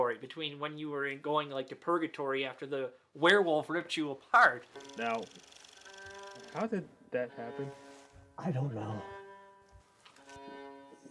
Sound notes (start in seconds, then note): 4.3 reel flickering; 9.8 eerie music